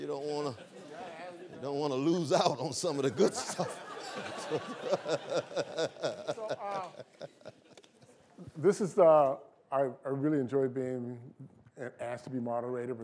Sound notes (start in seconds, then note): 3.1 laughter